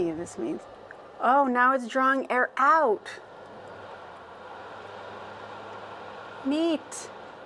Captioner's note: windy sound stops, motor sound remains